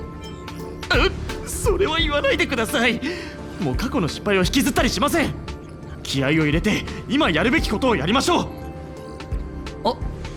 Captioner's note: sigh